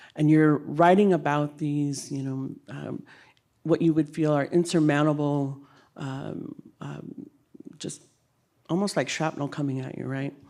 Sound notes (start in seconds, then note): none